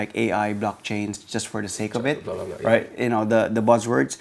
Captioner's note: murmurs